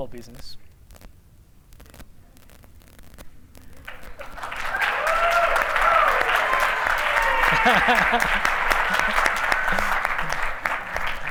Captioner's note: applause; laughter